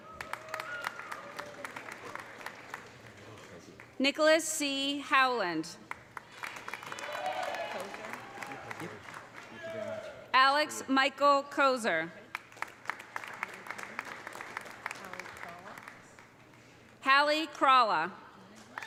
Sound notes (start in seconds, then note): 0.0 audience cheering; 0.0 audience applauding; 5.8 audience applauding; 6.5 audience cheering; 12.3 audience applauding